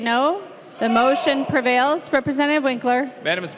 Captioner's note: chorus of ayes